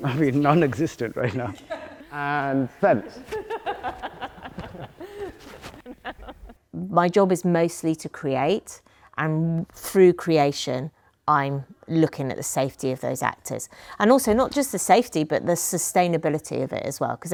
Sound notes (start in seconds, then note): 3.2 laughter